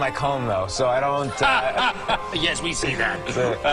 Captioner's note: laughs